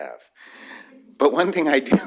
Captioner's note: laughter